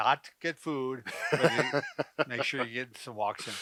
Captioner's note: both laughing